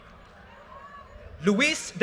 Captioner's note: audience cheers and applause